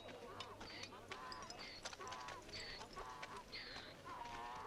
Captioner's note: donkey braying